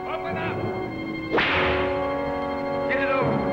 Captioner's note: whip cracks